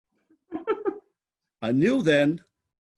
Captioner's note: laughing